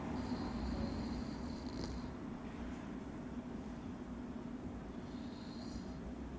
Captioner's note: gentle snoring sounds